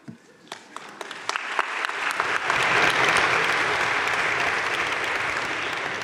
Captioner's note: audience cheering and applauding